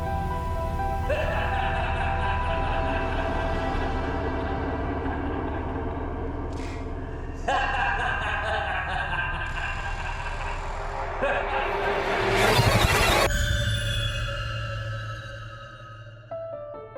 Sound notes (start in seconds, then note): 0.1 tense music; 1.1 driver laughs; 13.7 tense music